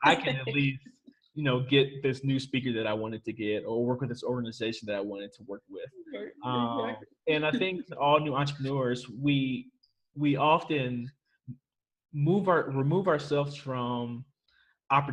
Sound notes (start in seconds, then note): 0.0 laughs; 7.3 chuckles